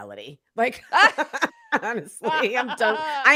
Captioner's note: both laughing